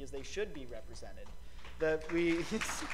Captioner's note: applause